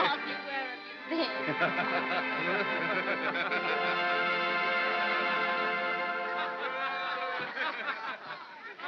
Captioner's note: soft music; soft laughter